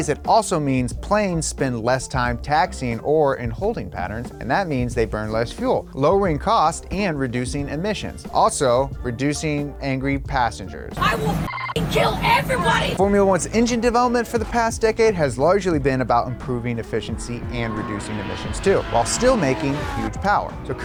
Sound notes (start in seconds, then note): 11.4 beep